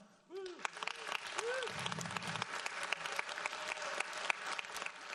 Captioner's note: audience applauds